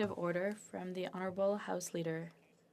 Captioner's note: speaking French